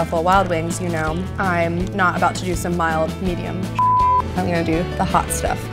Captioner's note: beep